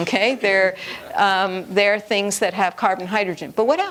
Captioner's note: none